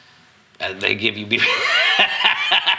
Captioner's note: laughs